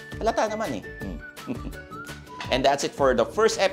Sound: chuckles

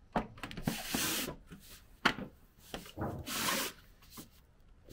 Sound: angling tool scraping

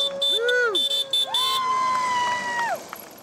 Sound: scooter horn

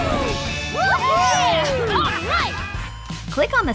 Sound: cheering

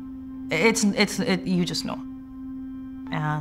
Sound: stammers

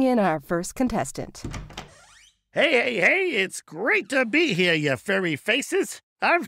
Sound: door opens

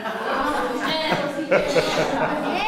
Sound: laughter

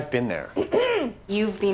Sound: MOLLY clearing throat

